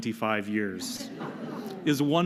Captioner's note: laughter